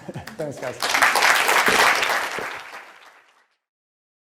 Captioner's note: applause